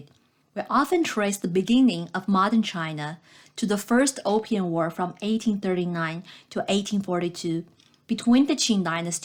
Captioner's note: click